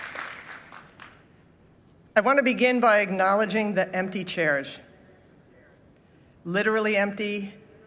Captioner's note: applause